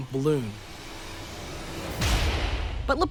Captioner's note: gun firing